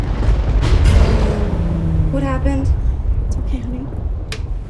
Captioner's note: thunderclap